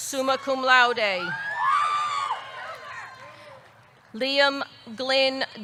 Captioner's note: audience cheering